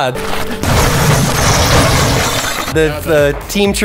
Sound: crashing

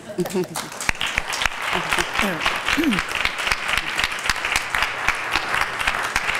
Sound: applause

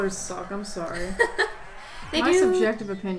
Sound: laughs

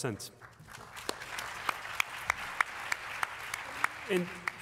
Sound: applause

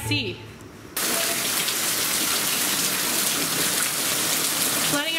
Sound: heavy rainfall

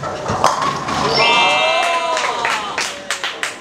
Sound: A round of applause

